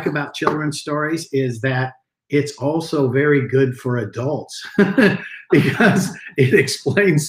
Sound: chuckling

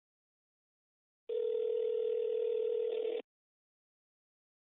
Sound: phone ringing

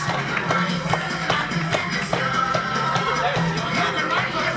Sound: clapping, music

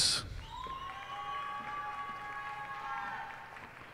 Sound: cheers and applause

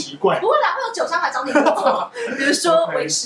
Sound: laughs

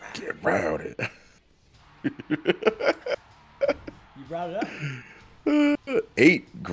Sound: laugh

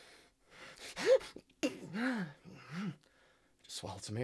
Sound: gasping

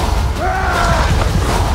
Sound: roars

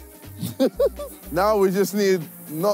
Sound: laughs

